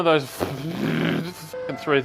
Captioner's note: mixer noises